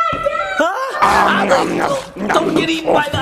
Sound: dinosaur chomping

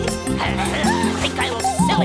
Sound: pink Triplet laughs; witch grunts

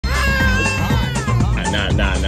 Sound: screaming

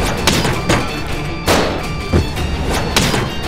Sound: shooting

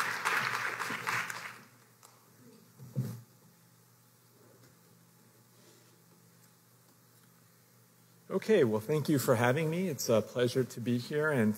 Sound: applause

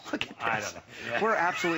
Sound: laughter

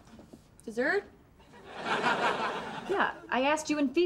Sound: audience laughter

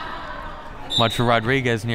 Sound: whistle

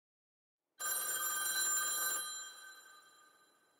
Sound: phone ringing

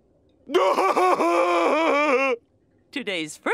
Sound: laughing

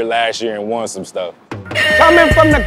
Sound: hip-hop music; buzzer beeps

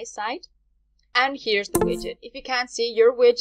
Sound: mechanical computer sound

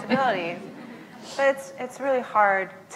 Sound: laughs; laughs

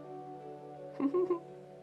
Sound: giggle

